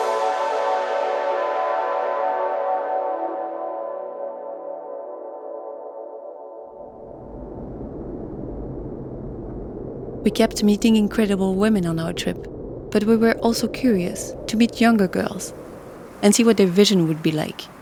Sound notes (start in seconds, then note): 8.9 wind blowing